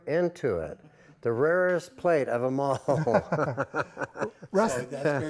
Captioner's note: laughing